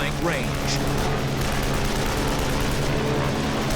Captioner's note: weapons firing